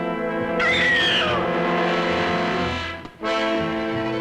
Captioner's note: screams